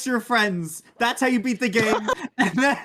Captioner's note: laughs